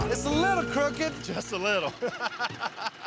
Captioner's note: laughter